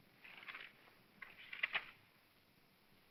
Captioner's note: paper rustling